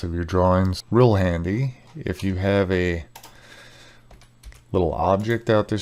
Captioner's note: keyboard clacking